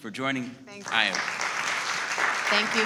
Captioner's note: audience laughing